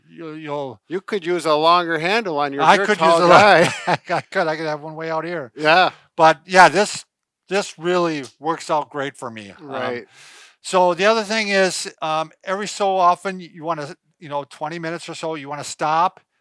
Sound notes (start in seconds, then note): 2.7 both chuckle